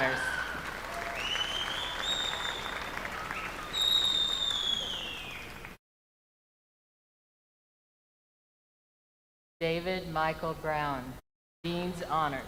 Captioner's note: names being called